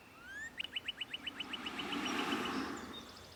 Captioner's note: birds chirping